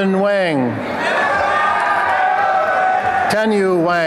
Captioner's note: applause and cheering